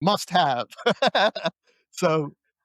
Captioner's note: laughs